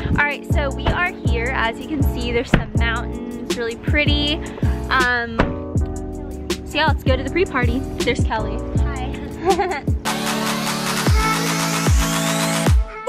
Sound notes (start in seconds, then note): 9.4 laughs; 10.4 upbeat music